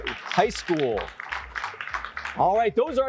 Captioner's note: applause